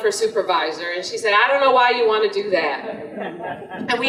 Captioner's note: audience laughter